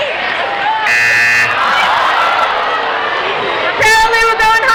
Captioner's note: buzzing